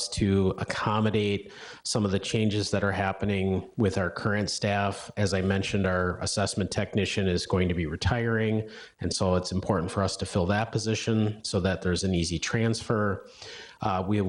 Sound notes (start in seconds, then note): none